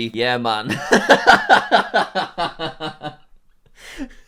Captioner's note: laughing